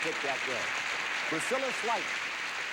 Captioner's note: audience applauding